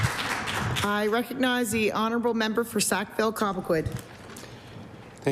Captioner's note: applause